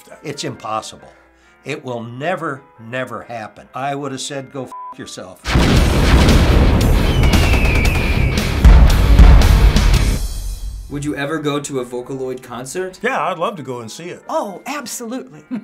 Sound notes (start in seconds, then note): 5.4 gunshots; 5.4 explosions; 5.4 heavy metal; 6.9 eagle screeches